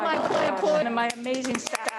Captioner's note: they applaud